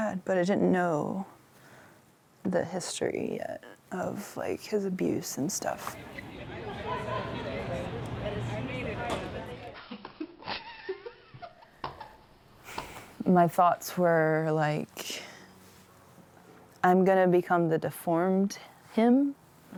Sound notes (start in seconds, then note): 6.8 people chattering; 9.8 laughing